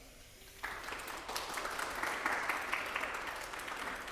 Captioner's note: audience clapping